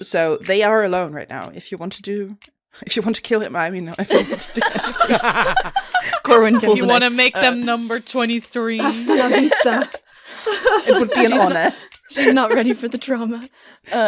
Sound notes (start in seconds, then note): 4.1 laughter; 4.1 laughs